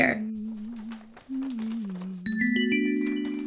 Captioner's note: hums; whimsical music